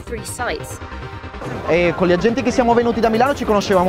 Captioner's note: foreign language